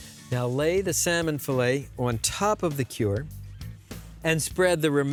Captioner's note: none